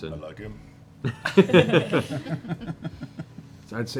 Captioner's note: laughter